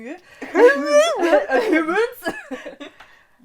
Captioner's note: babbling and imitation